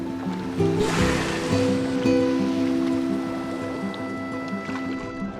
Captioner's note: water splashing